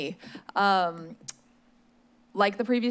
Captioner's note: smacks lips